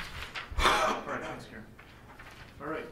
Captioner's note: coughing